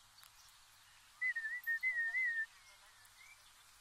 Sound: whistling

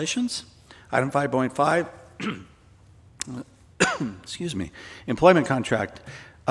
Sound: coughs

